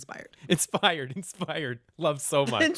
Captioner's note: laughter